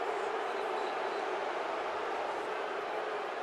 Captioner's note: crowd roaring